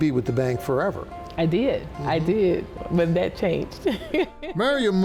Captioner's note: laughs